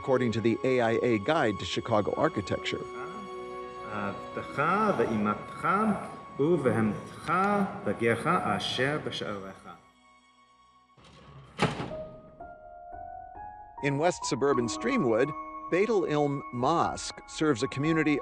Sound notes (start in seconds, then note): 4.4 reading in Hebrew; 11.9 gentle piano music